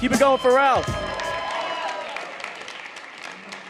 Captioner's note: audience cheering